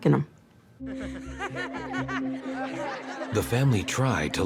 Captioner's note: laughing